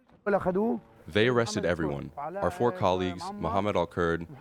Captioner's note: through translator